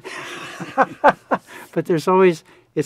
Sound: both laughing

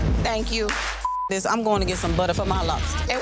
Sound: beep

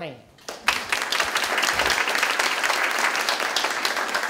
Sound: audience applause

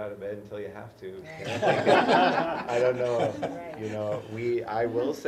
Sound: laugh

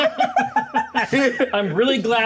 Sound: co-hosts laughing

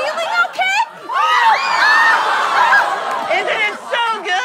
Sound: screaming

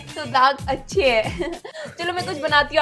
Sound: laughing

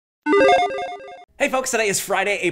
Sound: electronic chime

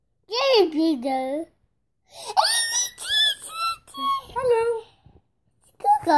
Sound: babbling and squealing

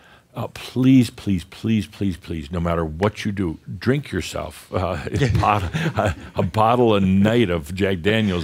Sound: they chuckle

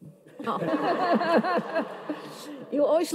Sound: audience laughs

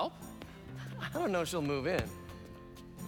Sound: laughing

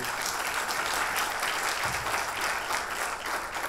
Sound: audience applause

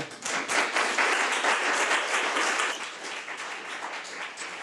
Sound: audience applause

